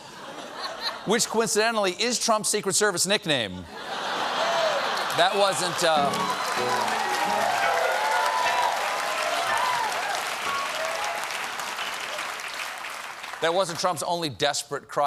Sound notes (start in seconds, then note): 3.6 laughter; 4.5 applause